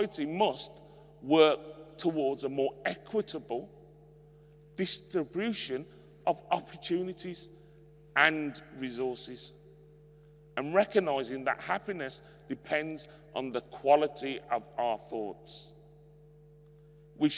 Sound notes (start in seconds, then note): none